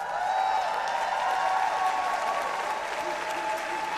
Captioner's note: applause